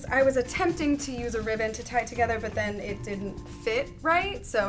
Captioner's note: none